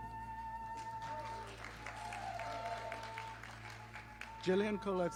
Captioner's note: audience applauding